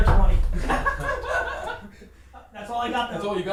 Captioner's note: laughs